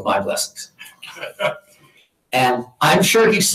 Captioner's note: audience laughing